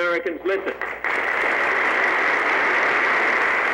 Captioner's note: applause